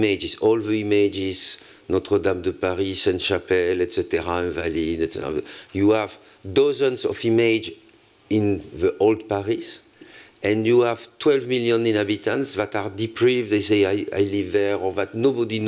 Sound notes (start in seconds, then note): 4.6 french